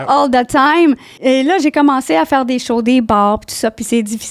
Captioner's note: in french